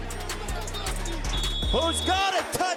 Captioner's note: whistle blows